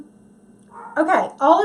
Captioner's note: dogs barking